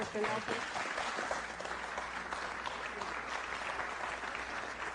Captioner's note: applause